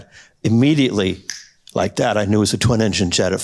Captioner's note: snaps fingers